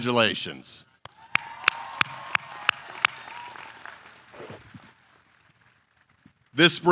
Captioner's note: applause